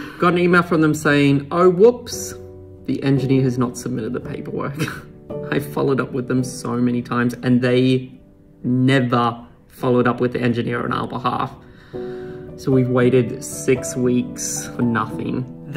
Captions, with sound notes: Got an email from them saying, oh, whoops, the engineer has not submitted the paperwork (chuckles). I followed up with them so many times and they never followed up with the engineer on our behalf. So we've waited six weeks for nothing.